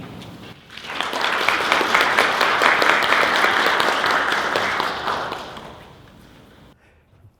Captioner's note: applause